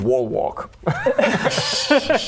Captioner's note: cheeky laugh